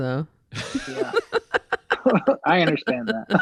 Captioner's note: laughing